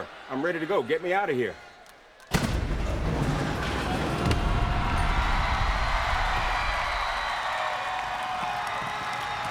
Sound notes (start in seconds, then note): 3.2 crowd cheering; 3.2 dramatic music